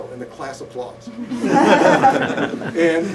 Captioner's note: laughter